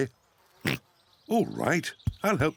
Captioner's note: oinks